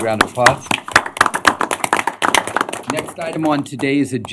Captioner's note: applause